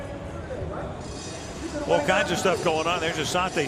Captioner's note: pa announcement